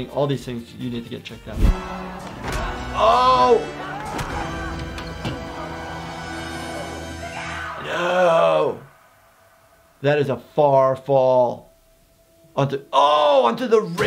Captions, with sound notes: all these things you need to get checked out. Oh! (triumphant music) (loud grunting) - Miguel! - No. That is a far fall onto the oh onto the railing!